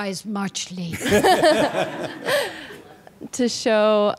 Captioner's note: laughter